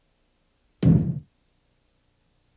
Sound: thud

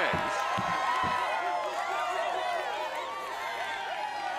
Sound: crowd cheering

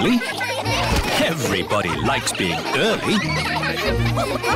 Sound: laughter

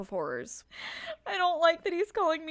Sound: heavy breath

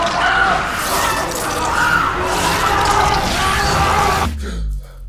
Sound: zombies screeching

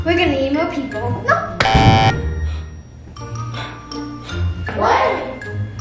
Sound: beeps buzzer

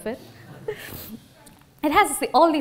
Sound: laughter

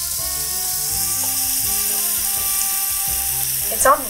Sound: waffle iron sizzling

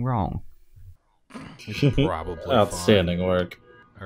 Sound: laughter; car alarm

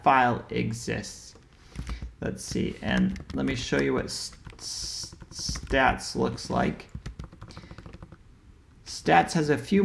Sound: keyboard typing sound

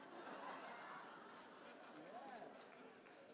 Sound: laughter

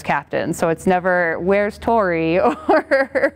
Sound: chuckling

